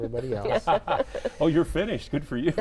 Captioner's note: laughs